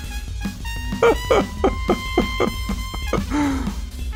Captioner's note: laughs with smooth jazz in background